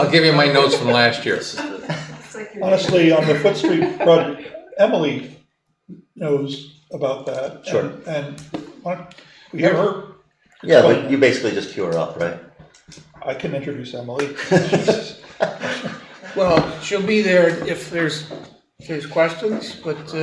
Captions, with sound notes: I'll give you my notes from last year. Honestly, on the foot street, Emily knows about that. Sure. And, you ever-- You basically just pure up, right? I can introduce Emily. (laughing) Well, she'll be there if there's questions, but--